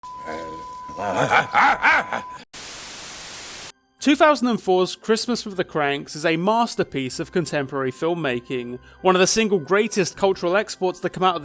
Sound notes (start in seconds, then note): 0.1 beeping; 0.1 grunting; 2.5 static